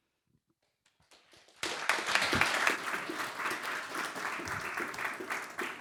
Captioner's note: audience applauding